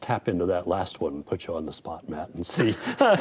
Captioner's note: laughs